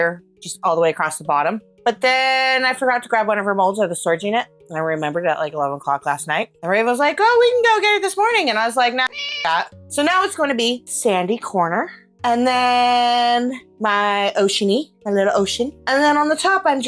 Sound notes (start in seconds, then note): 9.0 meow